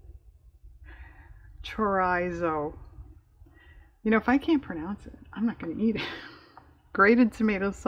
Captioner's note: laughs